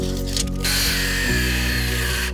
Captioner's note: saw buzzing